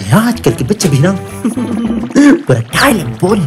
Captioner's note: chuckle